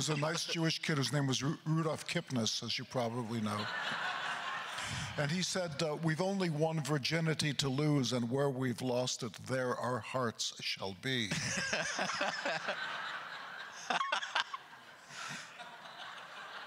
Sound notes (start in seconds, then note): 0.0 crowd laughter; 3.3 crowd laughter; 11.4 crowd laughter; 11.4 laughing; 13.7 laughter continues